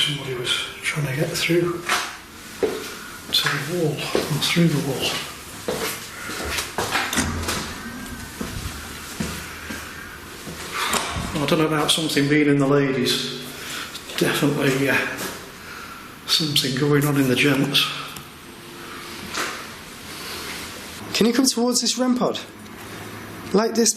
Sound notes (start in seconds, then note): 10.9 loud exhale